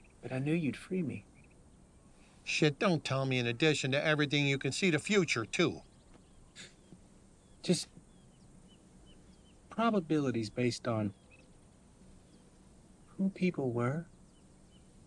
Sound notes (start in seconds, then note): 6.5 chuckles